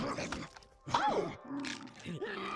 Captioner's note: surprised